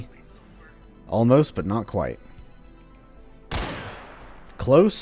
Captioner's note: crack